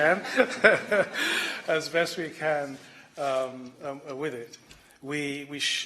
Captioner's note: laughter